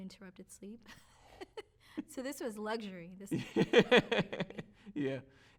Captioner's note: laughs